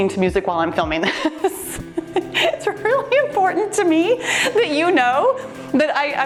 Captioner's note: laughs